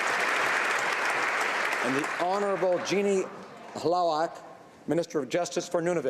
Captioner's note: applause